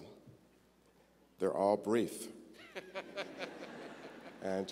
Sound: audience laughter

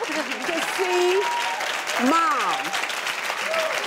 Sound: applause

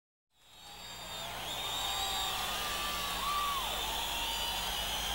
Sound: audience cheering

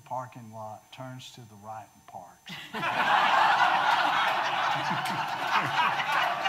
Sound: audience laughing

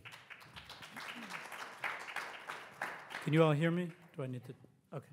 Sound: audience applauds

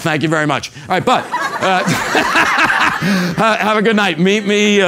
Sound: laugh

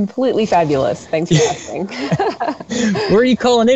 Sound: both laugh

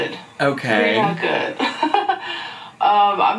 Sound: chuckles softly

